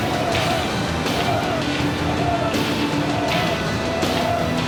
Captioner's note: troops chant